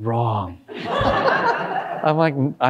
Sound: all laughing

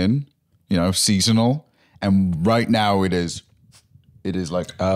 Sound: sniffs

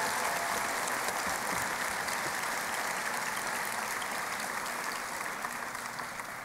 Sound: applause

